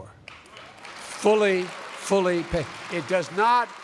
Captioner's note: applause